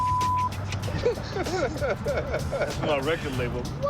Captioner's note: laughter